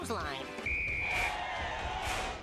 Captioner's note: whistle blowing; audience cheering